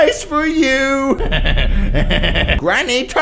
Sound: laughs

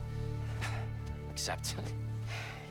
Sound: laugh

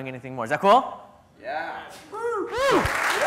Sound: clapping and cheering; crowd

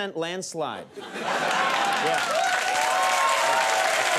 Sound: audience cheering

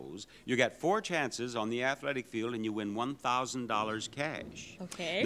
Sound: none

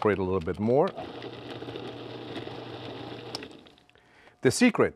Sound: food processor whirring

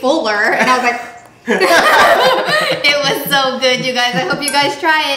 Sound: both laughing

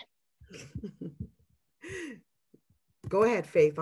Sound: laughing

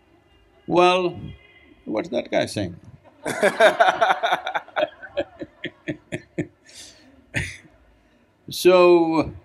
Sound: laughter

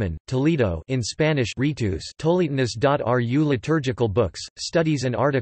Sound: in Spanish

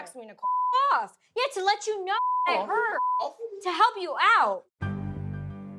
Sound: beep

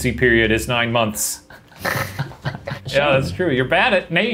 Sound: laughing

